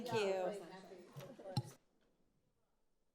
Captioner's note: speaks faintly